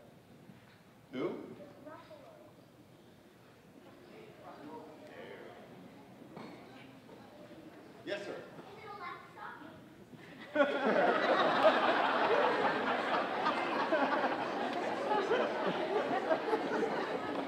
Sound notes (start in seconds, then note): 2.3 kid mumbling; 10.3 audience laughing